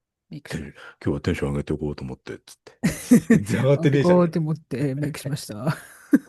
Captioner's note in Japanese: 笑い